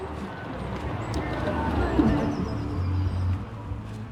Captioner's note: traffic noises